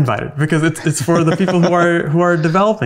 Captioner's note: laughs